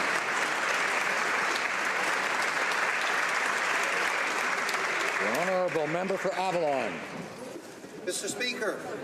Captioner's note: applause